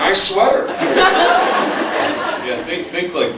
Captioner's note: laughs